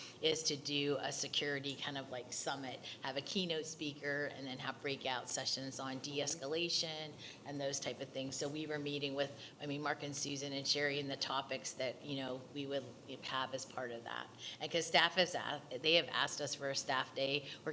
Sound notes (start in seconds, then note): none